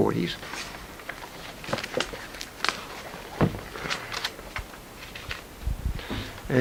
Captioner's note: paper rustling